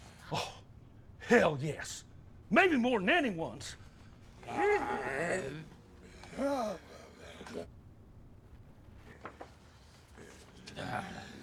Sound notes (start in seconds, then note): 4.4 moaning; 10.2 growling